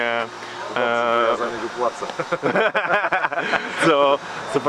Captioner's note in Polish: śmiech